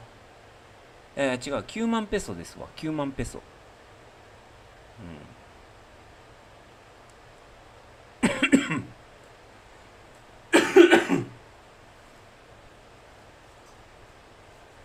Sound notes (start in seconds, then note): 8.8 cough; 10.5 clears throat